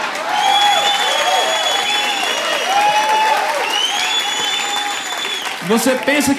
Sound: applause

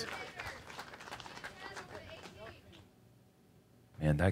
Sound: crowd cheering

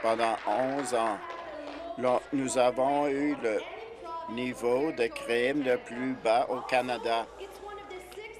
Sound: applause

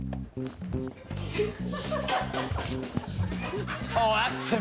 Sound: laughing

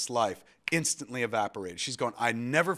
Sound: snaps

